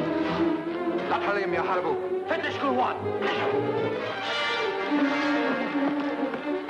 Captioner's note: speaks in foreign language